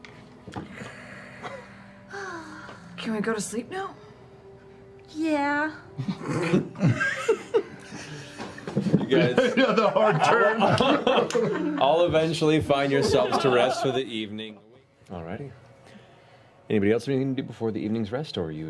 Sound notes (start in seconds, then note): 0.6 sighs; 6.0 laughing